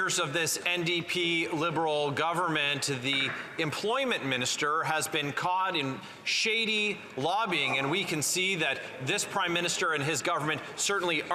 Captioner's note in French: voix de l'interprète